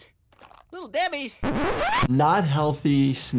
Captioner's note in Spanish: la cinta se rebobina